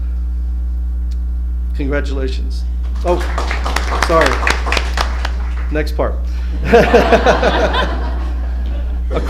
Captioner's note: laughter